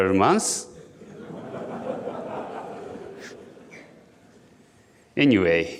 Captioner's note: audience laughing